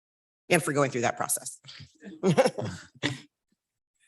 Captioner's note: laughs